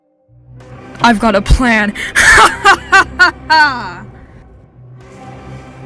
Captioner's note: evil laughter